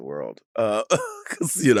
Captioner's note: Sapphira laughs